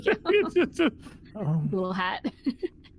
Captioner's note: laughing